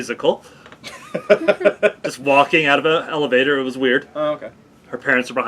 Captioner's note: laugh